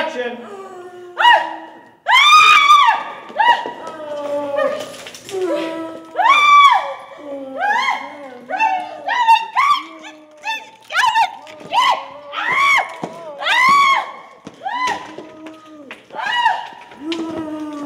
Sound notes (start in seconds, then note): 1.3 moaning; 2.0 screaming